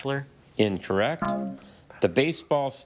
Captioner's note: buzzer buzzes